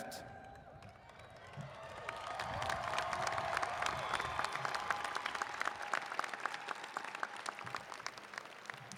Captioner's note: applause